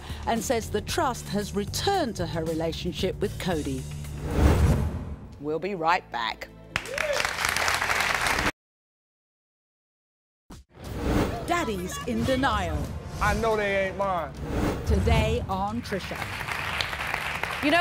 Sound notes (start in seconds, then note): 6.7 audience applauds; 11.3 voiceover; 15.0 voiceover